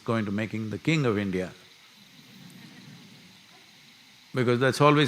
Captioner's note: few laugh